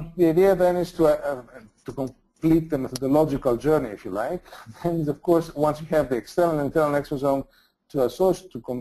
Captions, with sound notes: The idea then is to complete the logical journey, if you like [laughs] and, of course, once you have the external and internal exposome